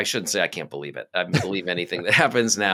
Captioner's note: laughing